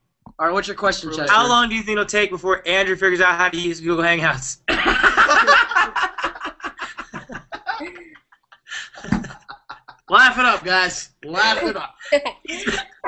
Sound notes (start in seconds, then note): 2.1 laughter